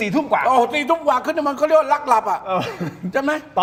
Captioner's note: laughs